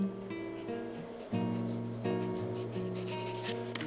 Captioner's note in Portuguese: Ruído de lápis contra o papel